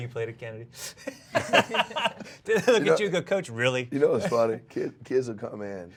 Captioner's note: laughs